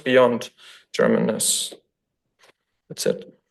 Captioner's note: none